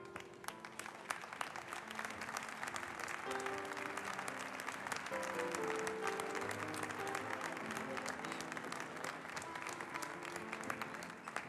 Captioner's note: applause